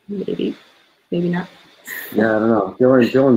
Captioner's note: laughs